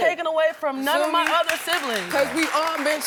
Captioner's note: audience applauding